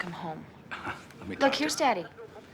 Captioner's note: chuckles